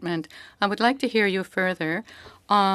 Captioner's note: speaking French